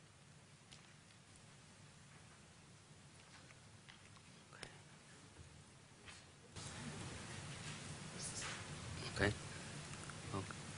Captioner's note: pause